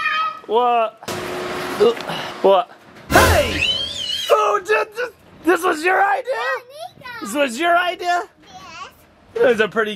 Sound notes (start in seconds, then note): 3.4 screams